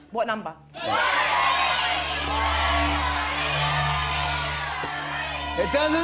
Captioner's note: audience shouting